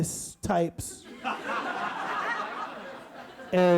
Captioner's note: audience laughs